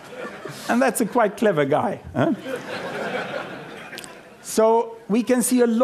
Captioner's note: laughter